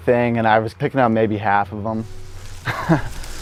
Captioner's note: laughs